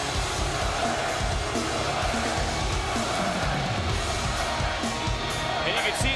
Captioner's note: crowd cheering